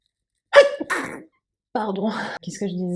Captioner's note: sneezing, sorry